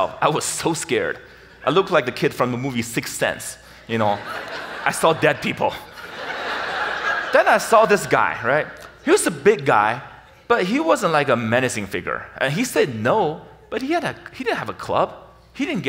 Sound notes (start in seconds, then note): 5.9 audience laughs